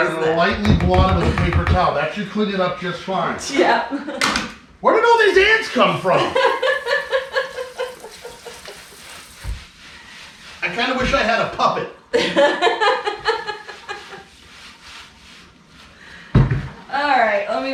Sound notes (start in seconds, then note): 6.1 giggling